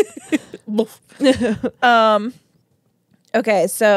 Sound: laughing; laughs; imitates sound

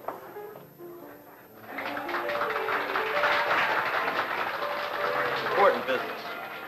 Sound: applause

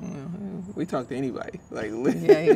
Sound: laughs

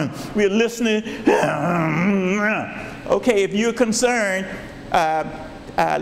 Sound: grunting

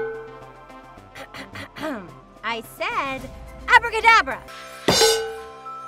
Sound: clears throat

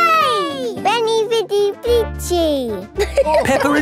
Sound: all laughing

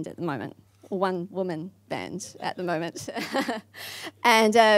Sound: laughs

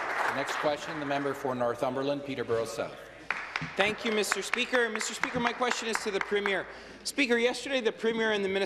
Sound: applause

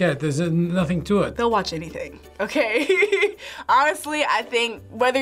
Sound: laughs

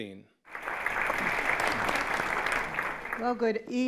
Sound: applause

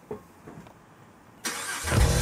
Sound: engine starts

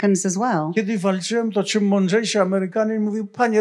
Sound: foreign language

